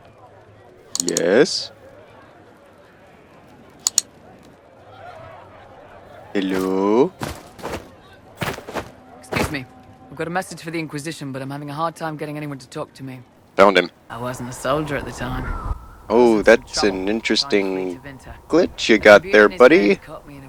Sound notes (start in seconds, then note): 0.9 impatient clicking